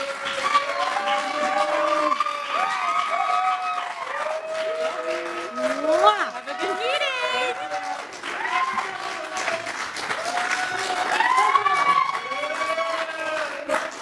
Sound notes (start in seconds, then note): 0.0 cheers and applause